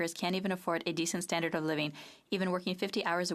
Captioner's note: speaking French